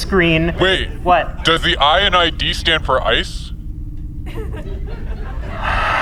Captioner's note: sighs deeply